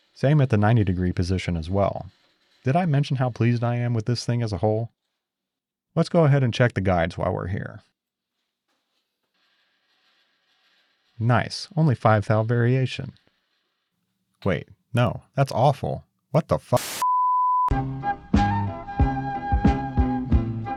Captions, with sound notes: same at the 90 degree position as well. Did I mention how pleased I am with this thing as a whole? Let's go ahead and check the guides while we're here. Nice, only five thou variation. Wait, no, that's awful. What the fu. (white noise) (bright music)